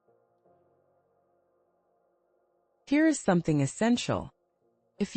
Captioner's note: pause